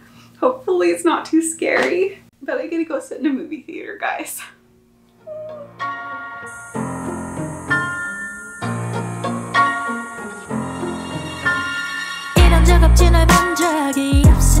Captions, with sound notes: Hopefully it's not too scary. But I get to go sit in a movie theater, guys. [CICADAS BUZZING] [MUSIC WITH KOREAN VOCALS]